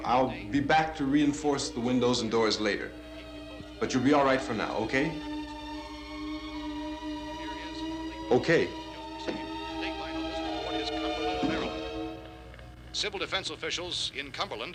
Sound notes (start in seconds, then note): 5.5 foreboding instrumental music; 9.8 murmuring